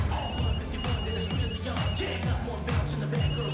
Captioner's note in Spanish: Suena el celular